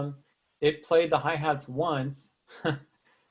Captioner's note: chuckling